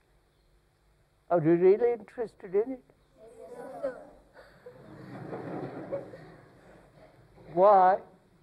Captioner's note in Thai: หัวเราะ